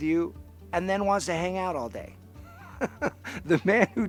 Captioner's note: laughs